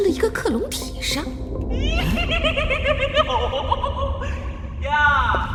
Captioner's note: creepy laughter